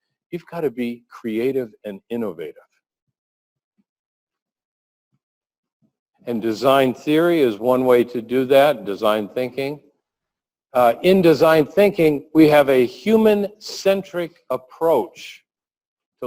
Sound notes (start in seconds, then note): 3.1 pause